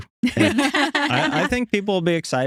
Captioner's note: laughing